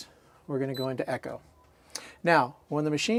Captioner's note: beeping sound